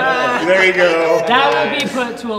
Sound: laughter

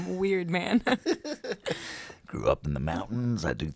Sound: laughing

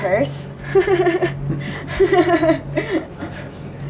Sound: laughs

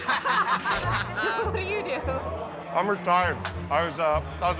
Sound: laughter; laughing

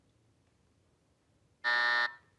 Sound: buzzer

